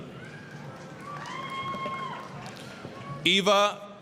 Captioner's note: applause, cheering